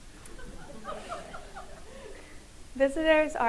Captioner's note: audience laughs